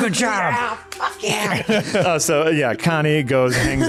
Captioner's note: laughter